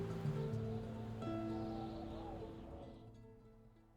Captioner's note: wind howling